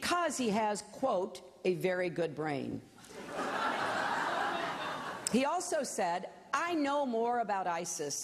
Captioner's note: laughter